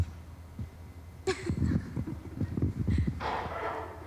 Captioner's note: laughs